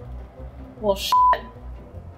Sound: beep

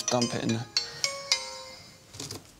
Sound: phone rings

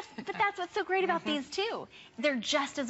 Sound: laughter

